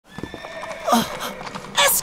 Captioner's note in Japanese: いななき